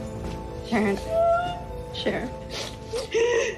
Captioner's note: wails